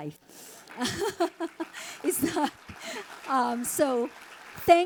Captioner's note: audience applauding